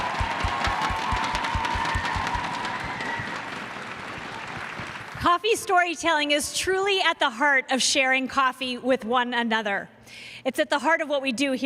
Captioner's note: cheers and applause